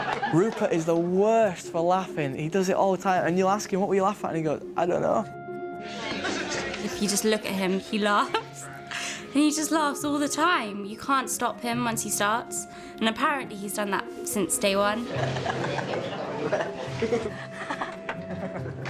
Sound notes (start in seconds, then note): 15.0 laughing